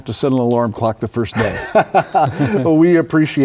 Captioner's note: laughs